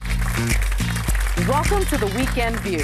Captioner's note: audience applauding